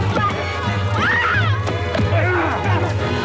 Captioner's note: screaming